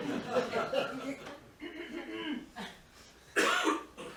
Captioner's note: clears throat